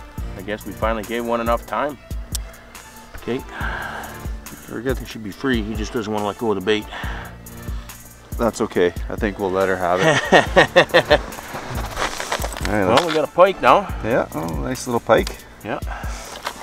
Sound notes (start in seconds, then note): 9.8 laughing